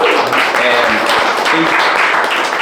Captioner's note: clapping